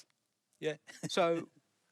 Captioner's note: chuckles